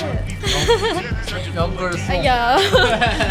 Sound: laughs

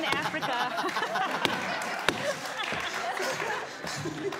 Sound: audience laughs

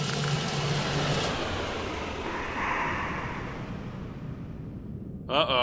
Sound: machine shutting down

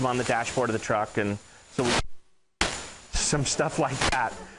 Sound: microphone interference

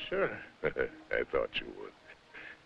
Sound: chuckling

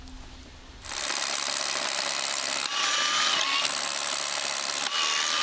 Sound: drill whirring

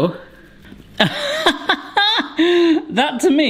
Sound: laughing

